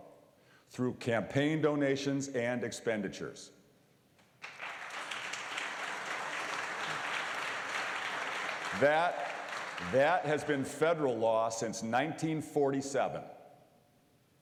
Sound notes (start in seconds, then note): 6.1 applause